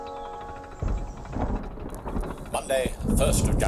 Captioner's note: thunder rumble